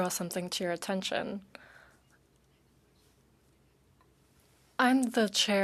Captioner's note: speaking French